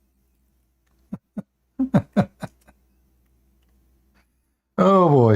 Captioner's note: Ketawa